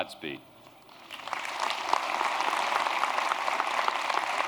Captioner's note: applause